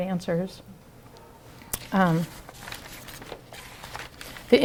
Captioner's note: rustling